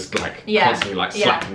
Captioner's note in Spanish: hand smacking